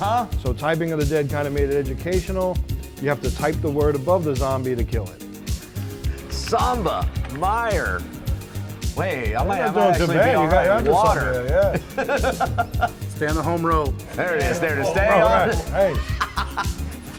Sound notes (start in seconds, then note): 11.5 laughs; 14.1 laughs